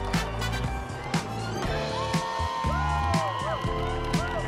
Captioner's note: many people cheering